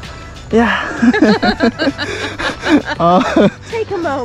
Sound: laughing

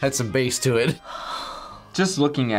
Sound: sighs

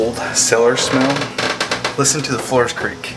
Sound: floor creaks

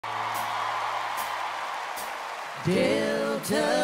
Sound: audience applauding and cheering

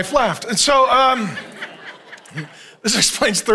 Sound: congregation laughing

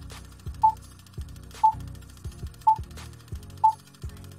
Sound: beeping

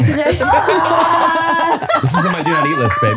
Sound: laughing

